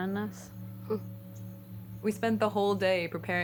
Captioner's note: laughs